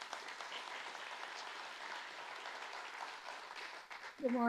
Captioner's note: audience applauding